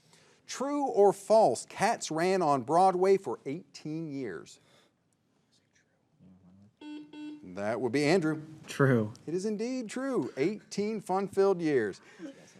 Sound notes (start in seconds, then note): 6.8 signal beeps